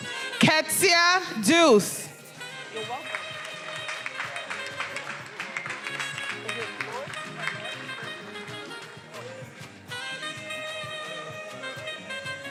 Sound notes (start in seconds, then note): 2.8 attendees applauding; 9.9 upbeat music